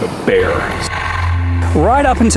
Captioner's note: growl